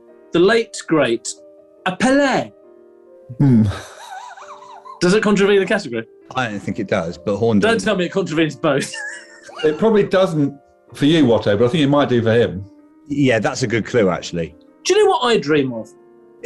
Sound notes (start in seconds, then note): 3.3 sniggering